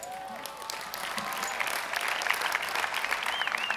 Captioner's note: applause